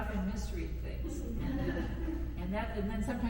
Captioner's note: attendees chuckle